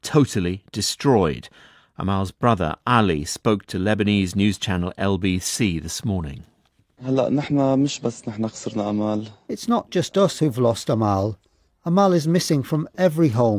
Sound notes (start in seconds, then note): 7.0 speaking Arabic